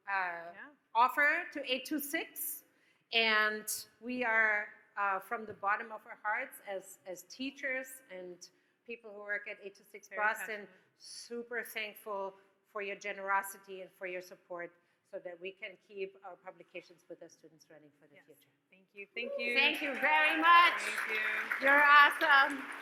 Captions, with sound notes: - Yeah. - Offer to 826. And we are, from the bottom of our hearts, as teachers and people who work at 826 Boston, super thankful for your generosity and for your support, so that we can keep our publications with our students running for the future. - Yes. Thank you. Thank you. (audience cheers) - Thank you very much! - Thank you. - You're awesome.